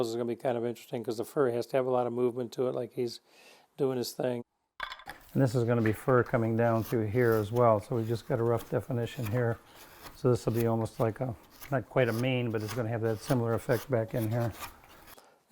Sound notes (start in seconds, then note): 4.7 chisel clattering; 9.4 chisel scraping